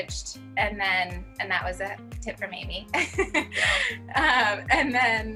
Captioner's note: chuckles